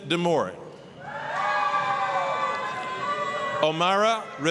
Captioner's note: applause, cheering